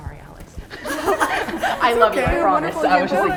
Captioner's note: members laughing